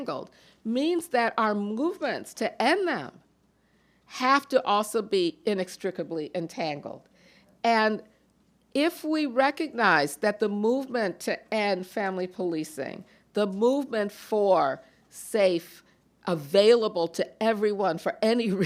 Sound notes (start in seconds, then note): none